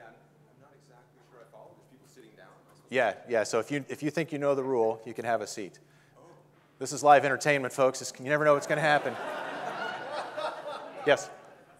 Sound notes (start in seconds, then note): 8.5 audience laughing